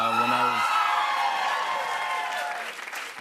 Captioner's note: cheers and applause